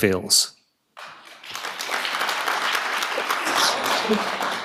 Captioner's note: audience applauding